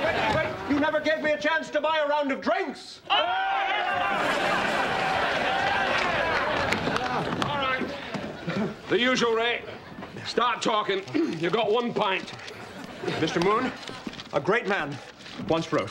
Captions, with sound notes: You never gave me a chance to buy a round of drinks. ( crowd cheering ) All right, the usual, Ray. Start talking. You got one pint. Mr. Moon a great man once wrote